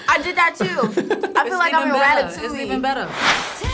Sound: React laughs

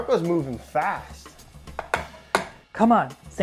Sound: taps jar

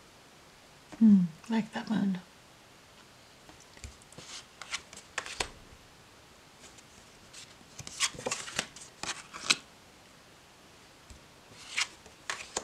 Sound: cards flipping

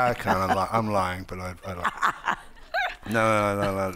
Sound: Margaret laughing

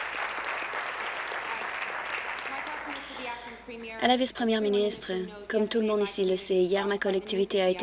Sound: applause

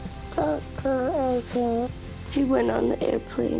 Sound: mumbles

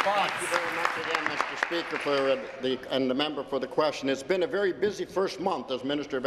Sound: applause

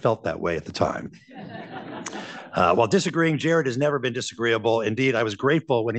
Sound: laughter

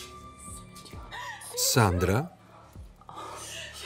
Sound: crying

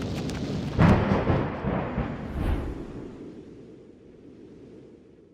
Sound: cape flutters; thunder crashes and echoes

